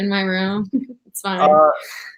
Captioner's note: chuckles